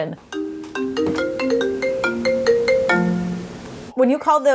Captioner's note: phone ringing